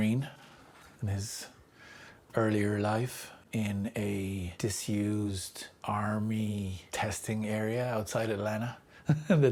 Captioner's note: chuckles